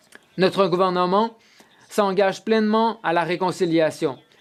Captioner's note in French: voix de l'interprète